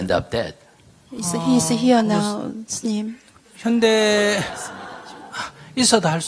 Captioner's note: audience Laughter